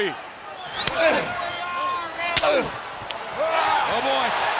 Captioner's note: wrestlers grunting